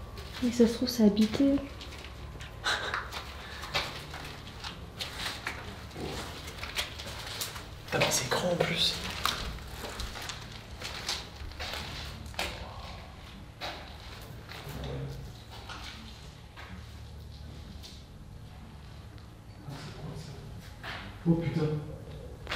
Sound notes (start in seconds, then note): 2.6 laughs; 11.5 creaks; 11.5 footsteps